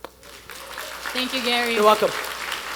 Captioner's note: attendees applauding